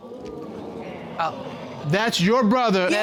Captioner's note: audience murmuring